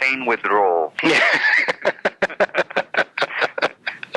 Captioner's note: laughs